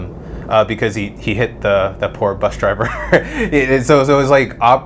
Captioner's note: laughs